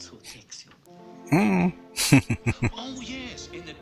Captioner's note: laughing